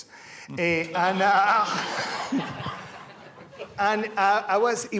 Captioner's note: laughter